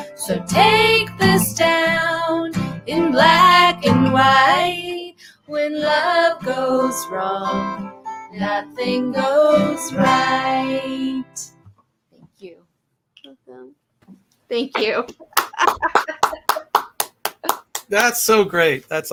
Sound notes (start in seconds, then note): 15.3 clapping